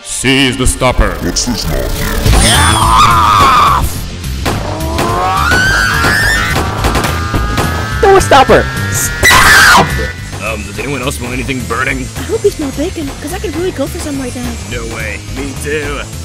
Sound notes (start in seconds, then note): 4.4 gunshot; 5.4 repeated gunshots